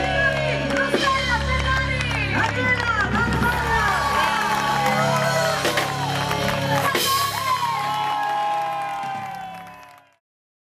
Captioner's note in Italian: Applauso; Applauso